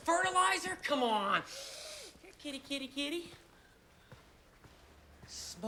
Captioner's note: sniffs